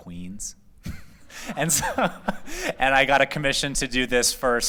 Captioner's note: laughter